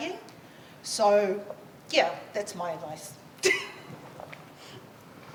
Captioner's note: laughs